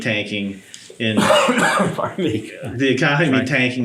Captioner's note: coughing